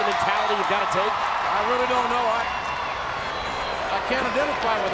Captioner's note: spectators cheering